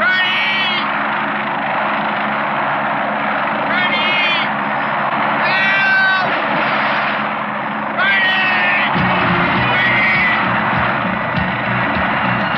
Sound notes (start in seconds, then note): 5.8 yelling; 8.9 tense music